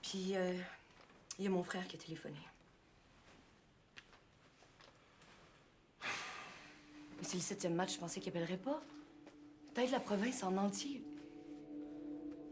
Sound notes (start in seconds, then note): 5.0 sighing